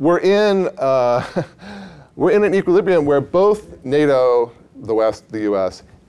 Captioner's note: laughs